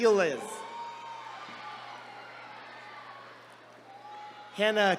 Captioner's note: attendees cheering